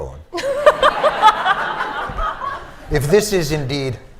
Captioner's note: laughter